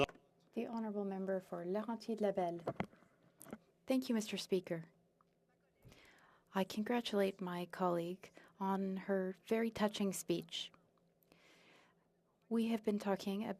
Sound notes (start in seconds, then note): 4.0 speaking French